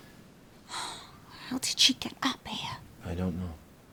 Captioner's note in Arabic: تتنهد